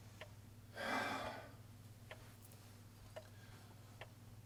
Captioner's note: sighing